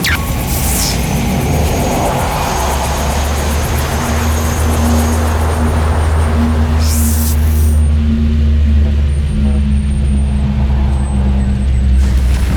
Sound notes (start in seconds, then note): 0.0 electrical fizzling; 5.3 ship humming